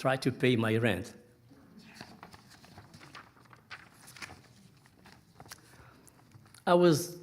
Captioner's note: pages rustling